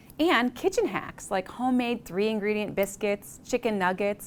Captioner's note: none